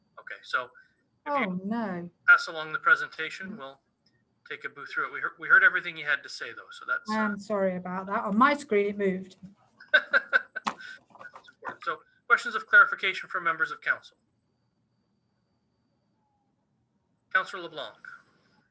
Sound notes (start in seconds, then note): 9.8 laughing